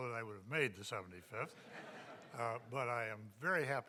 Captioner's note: audience laughing